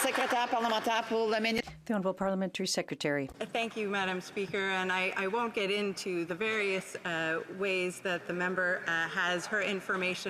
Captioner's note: some Applause